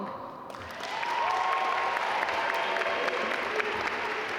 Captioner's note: audience applaud